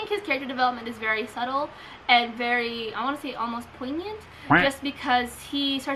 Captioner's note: quack